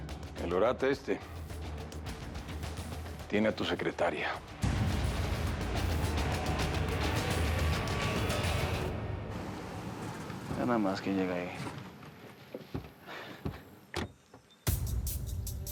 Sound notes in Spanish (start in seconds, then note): 9.5 sonido del vehículo